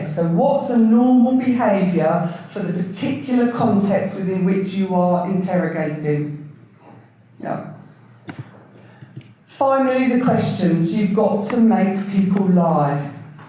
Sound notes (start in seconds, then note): none